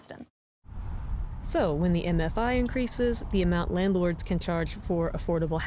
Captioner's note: voice-over